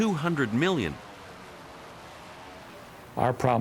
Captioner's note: aircraft whirring